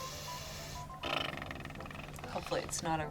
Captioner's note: blows raspberry